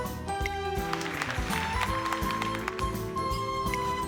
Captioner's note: clapclapclapclapclap!